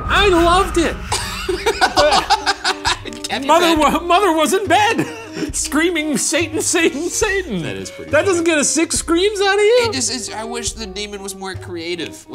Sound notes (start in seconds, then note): 1.0 laughing